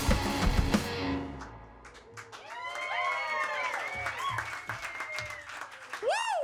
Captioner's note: upbeat rock music; audience applauding